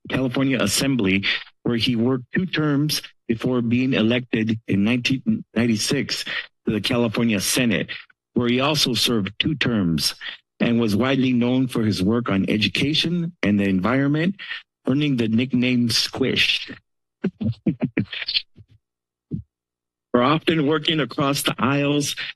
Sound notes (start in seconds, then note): 17.2 laughs